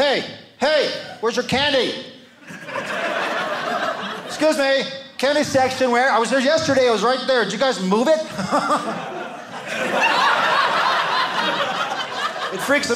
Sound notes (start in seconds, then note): 2.4 audience laughing; 8.3 audience laughing